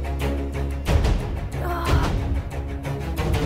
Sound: groaning

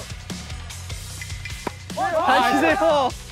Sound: hit hit hit

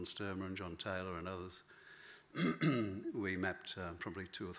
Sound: clears throat

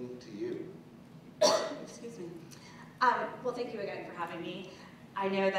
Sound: cough

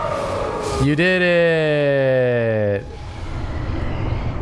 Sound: unenthusiastically

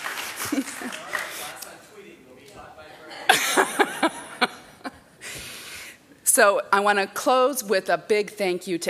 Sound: applause

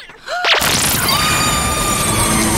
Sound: gasps

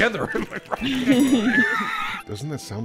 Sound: laughter

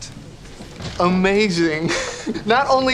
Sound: chuckles

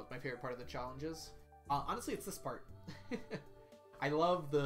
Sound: chuckles

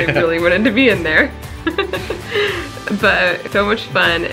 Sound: laughter

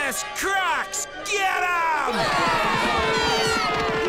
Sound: all screaming

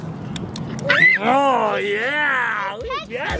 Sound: screams

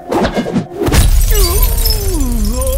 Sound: glass breaking

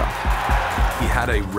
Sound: crowd cheering

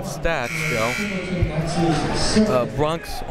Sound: buzzer ringing

